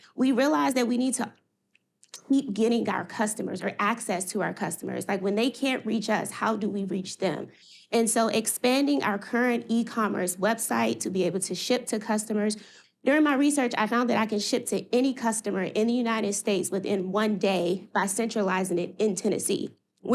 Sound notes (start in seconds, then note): none